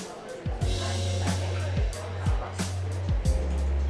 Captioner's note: chatter